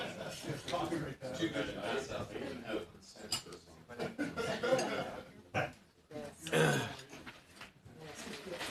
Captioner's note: laughter